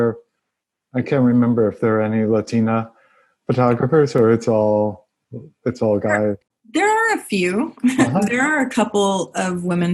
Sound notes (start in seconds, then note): 7.8 laugh